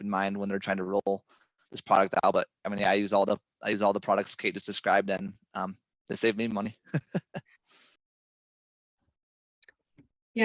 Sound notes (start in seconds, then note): 6.8 laughs